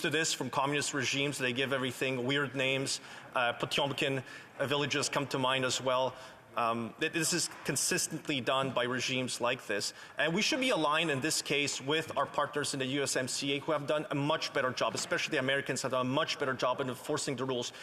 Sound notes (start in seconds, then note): 11.1 speaking Alternate Language